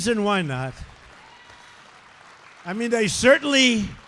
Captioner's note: applause